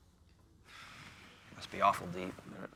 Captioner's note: sighs